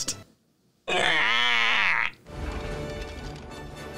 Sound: cries

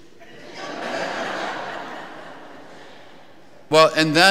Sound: congregation laughing

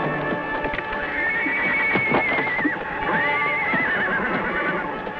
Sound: Champion whinnies

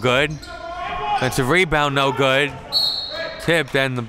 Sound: whistle blows

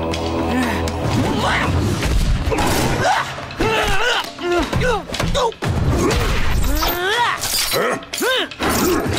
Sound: grunting

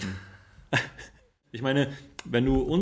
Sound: laughs

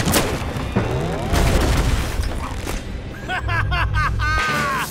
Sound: crash; evil laughter

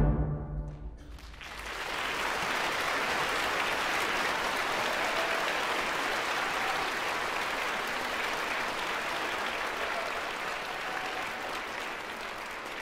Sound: cheers & applause

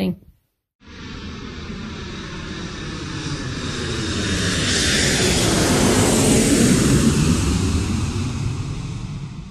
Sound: anticipatory airplane sounds

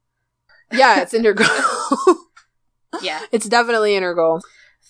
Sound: laughs

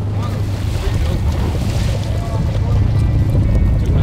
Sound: water splashes

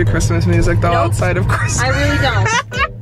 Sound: laughs

